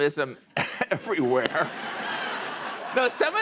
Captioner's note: chuckling; laughter